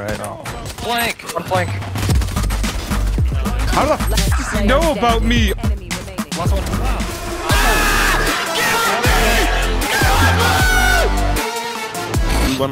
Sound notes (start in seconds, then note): 7.4 screams